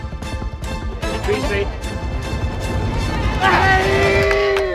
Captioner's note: crowd cheering